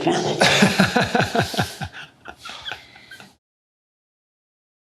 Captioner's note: laughter